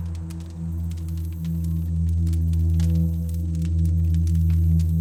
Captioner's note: campfire crackling